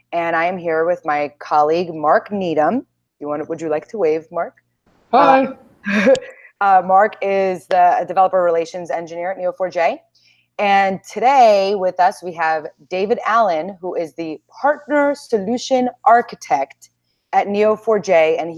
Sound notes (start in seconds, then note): 5.9 chuckles